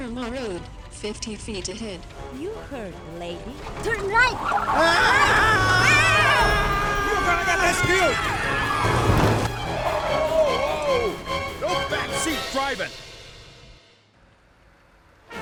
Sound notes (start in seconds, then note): 4.9 screaming; 8.4 tires screeching; 12.7 fast-paced music